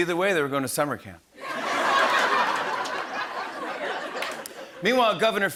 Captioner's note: laughter and applause